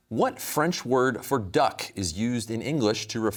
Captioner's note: none